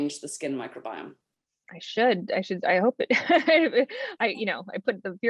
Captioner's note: laughter